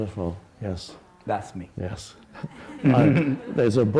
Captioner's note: laughs